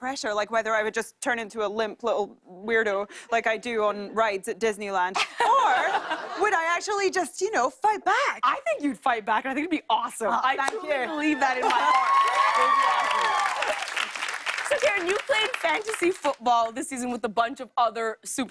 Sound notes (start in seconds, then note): 5.2 laughter; 11.2 cheers and applause